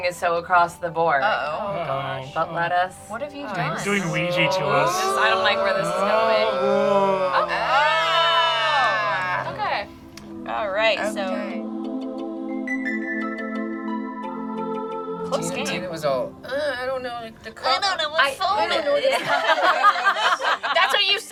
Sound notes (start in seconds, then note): 3.5 group groans; 7.2 group groans and awes; 10.3 light, bubbly music; 18.7 group laughs